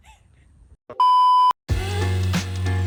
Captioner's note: panting heavily; standby tone; gentle upbeat music